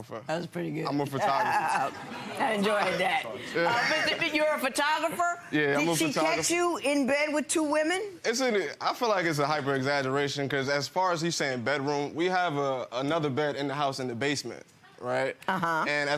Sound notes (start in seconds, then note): 0.0 audience laughing; 1.2 laughs